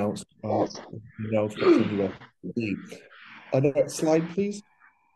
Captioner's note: faintly speaking